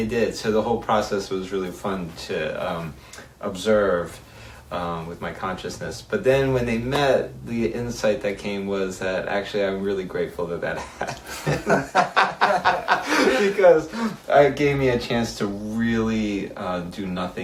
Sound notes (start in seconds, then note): 13.1 laughs